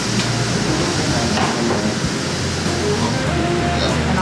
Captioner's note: grill sizzling